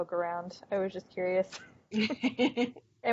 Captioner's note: laughing